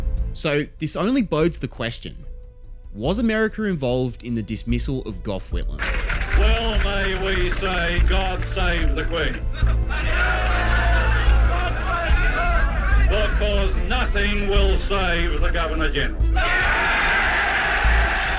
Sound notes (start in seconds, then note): 13.2 cheers and murmurs from the crowd